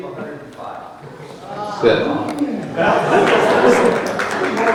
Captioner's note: crowd murmuring; crowd laughing